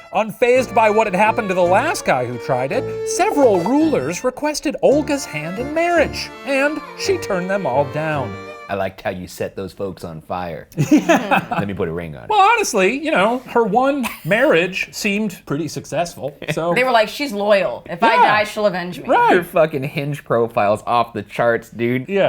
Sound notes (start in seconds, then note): 10.8 laughing